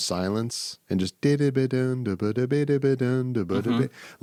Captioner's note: humming